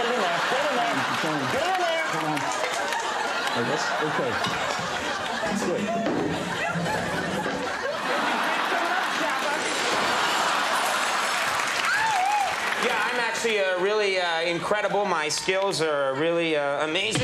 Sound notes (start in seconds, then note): 10.2 laughter